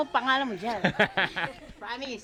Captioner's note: laughs